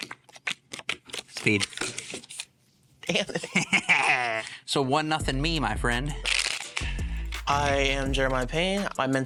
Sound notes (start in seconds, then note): 3.0 laughing; 6.2 cards snapping